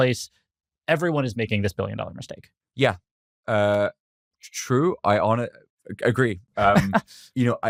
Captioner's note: laughs